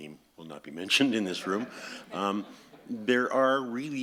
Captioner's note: audience laughs